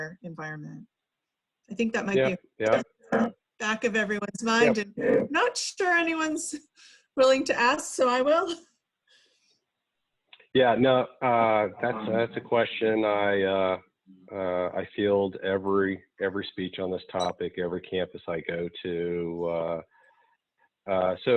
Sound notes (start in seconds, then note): 8.5 laughs